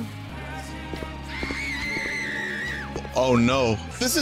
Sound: stock woman scream sfx

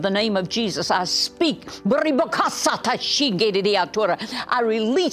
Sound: speaking in tongues

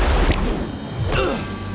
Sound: grunting

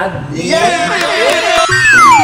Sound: cheering

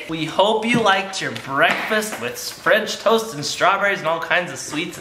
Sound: none

